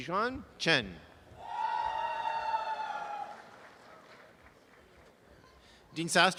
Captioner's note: audience applause